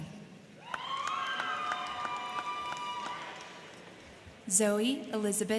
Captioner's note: crowd cheering; crowd clapping